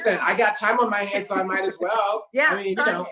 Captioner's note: laughing